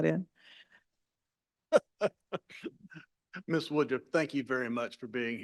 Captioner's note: laughs